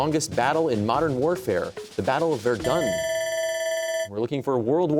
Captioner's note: bell ringing